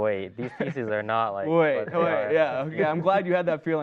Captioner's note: laughing